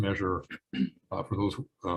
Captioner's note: clears throat